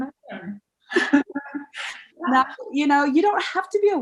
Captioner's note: both laugh